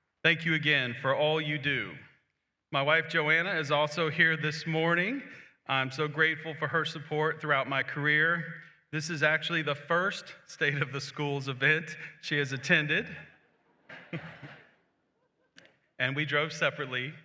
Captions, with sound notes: Thank you again for all you do. My wife, Joanna, is also here this morning. I'm so grateful for her support throughout my career. This is actually the first State of the Schools event she has attended. [Chuckles] And we drove separately.